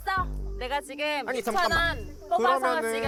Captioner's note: petty sound effect